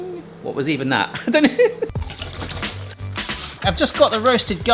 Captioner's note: laughs